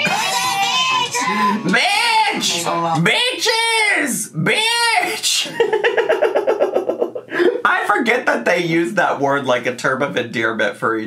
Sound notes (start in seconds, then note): 5.3 laughs